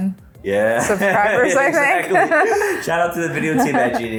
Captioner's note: laughing